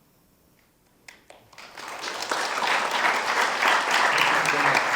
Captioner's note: audience applauding